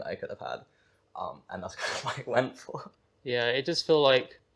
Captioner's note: she chuckles